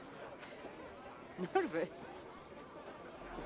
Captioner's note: laughing